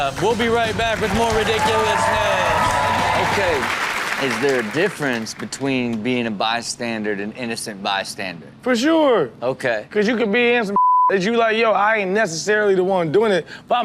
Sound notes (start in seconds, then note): 2.5 audience applauds